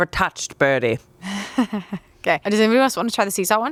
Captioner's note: chuckles